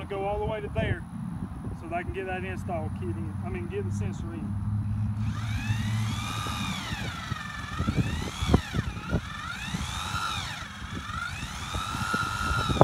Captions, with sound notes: to go all the way to there so that I can get that install kit in, I mean get the sensor in. (drill whirring)